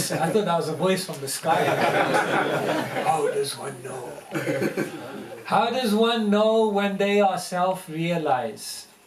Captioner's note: laughter